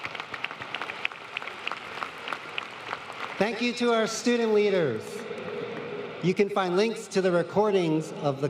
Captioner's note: applause